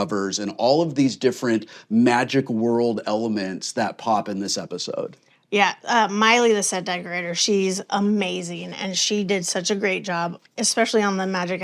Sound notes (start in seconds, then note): none